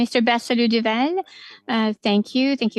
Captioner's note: speaking French